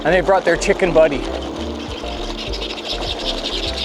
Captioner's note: turkeys gobbling